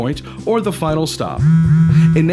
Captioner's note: phone vibrate sfx